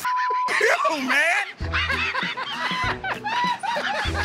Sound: laughter

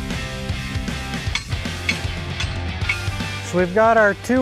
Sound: banging

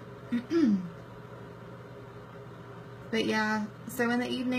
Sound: clears throat

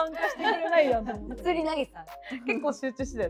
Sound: laughs

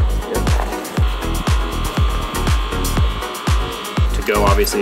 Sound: motor whirring

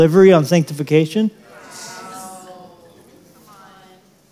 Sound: crowd praising

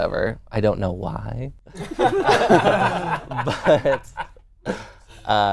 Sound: laughing

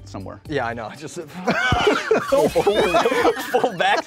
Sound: all laughing

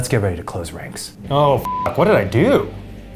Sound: beep

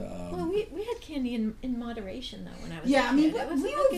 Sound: voiceover

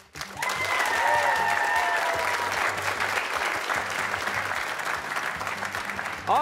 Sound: cheers and applause

